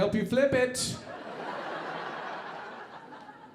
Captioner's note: audience laughing